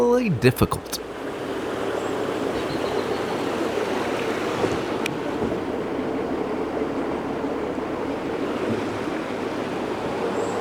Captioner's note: water rushing